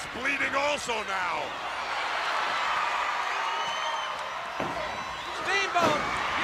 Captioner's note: crowd cheering